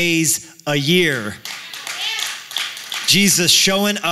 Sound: applause; cheering

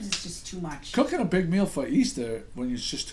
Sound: voiceover

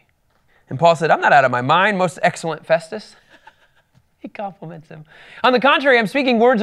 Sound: laughing

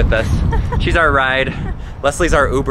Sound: laughs

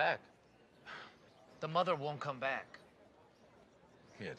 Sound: sighs

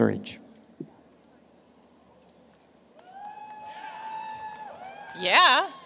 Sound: applause, Cheering

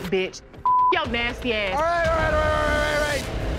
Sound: beep

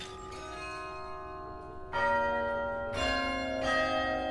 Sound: bells ringing

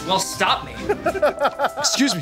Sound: chuckles

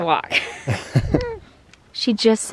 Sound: laughing

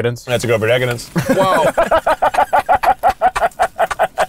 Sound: all laugh

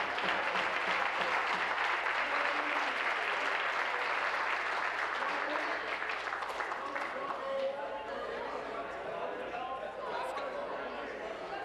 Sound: applause

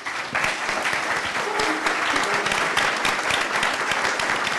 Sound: crowd applauds

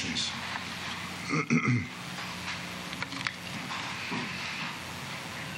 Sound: clears throat

